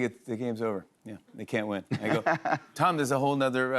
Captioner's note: laughs